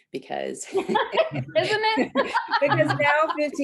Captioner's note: laughs